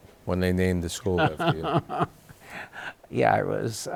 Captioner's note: laughs